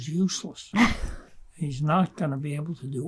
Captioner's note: laughing